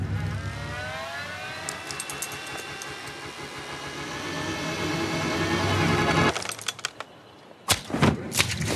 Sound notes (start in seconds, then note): 1.0 reel spinning